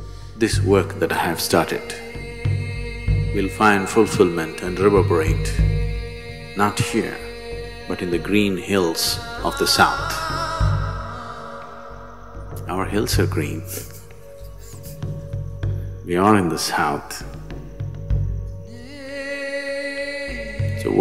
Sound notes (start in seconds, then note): 13.6 chuckles